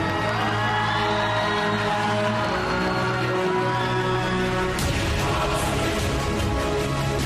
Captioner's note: crowd cheering, applauding